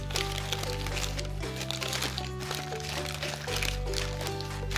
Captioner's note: paper crinkling